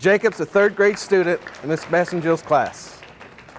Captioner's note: audience applauding